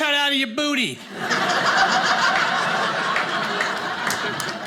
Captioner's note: audience laughing